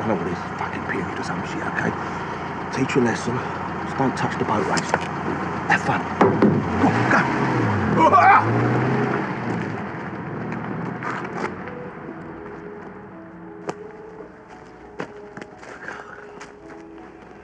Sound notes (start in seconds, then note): 6.8 laughs